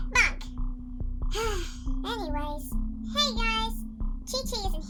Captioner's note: sigh